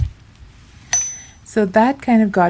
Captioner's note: hammering